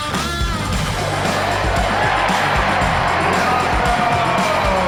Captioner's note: crowd cheering